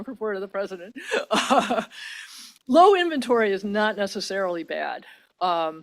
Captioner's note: laughs